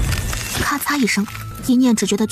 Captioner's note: crack!